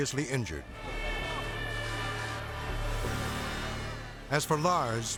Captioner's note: sirens blaring